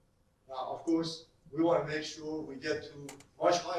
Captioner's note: none